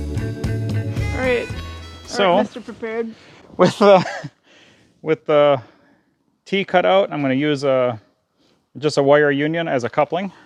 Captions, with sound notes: All right, Mr. Prepared. [chuckling] Alright. With the Tee cut out, I'm going to use a just a Wire Union as a coupling